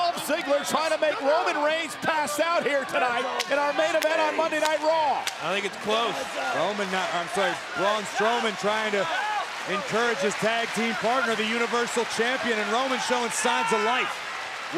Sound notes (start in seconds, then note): 4.5 Braun claps; 5.5 audience claps